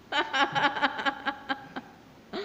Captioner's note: laughing